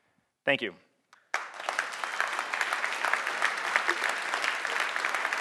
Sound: audience applauding

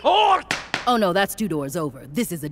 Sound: gavel bangs

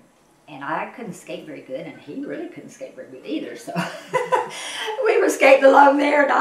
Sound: laughs

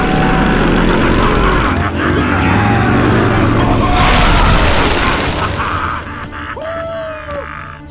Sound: laughing, cheering

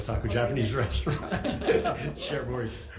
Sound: assembly laughing

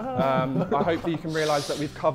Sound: Sidemen laughing

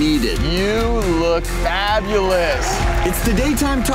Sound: audience cheering

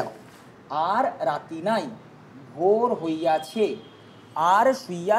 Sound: in Bengali

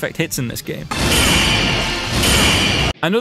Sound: perfect hit noise

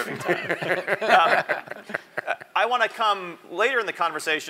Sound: laugh

